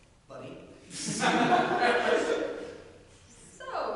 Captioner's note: audience laughter